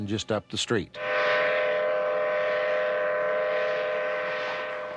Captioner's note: whistle blowing